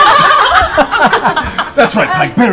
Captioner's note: laughter